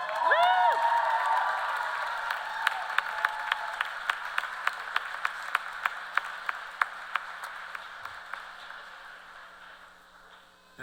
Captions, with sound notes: stand, remain standing, and make some noise. It's your graduation day! [CHEERS AND APPLAUSE]